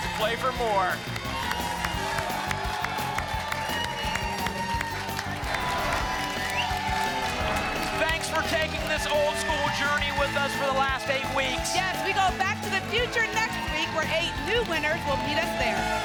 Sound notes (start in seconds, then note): 1.2 applause and cheering cont; 5.4 whoosh